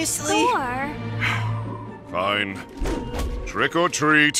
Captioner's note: sighs